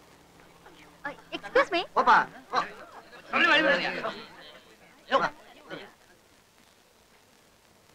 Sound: indistinct Voices

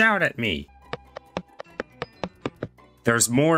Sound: footsteps

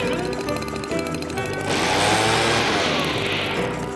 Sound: reef blower blows

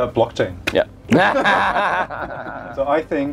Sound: laughter

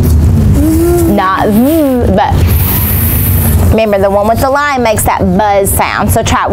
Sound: buzzing

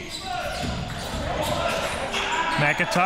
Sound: crowd cheering

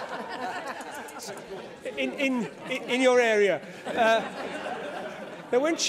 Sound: laughter

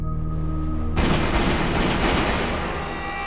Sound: gunshots

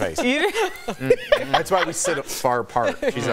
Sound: laughter

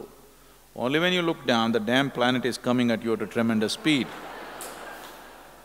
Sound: laughter

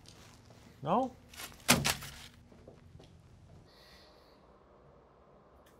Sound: food thuds in trash

